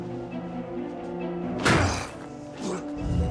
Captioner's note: gasps